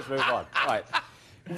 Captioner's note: laughter